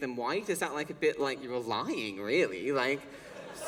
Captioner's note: laughter